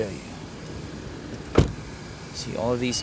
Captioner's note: closes door